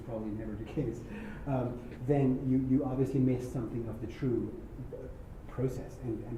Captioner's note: laugh